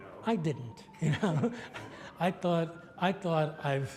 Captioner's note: laughs